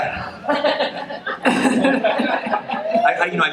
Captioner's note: laughing